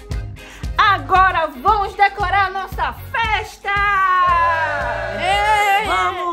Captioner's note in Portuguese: Gritos de Comemoração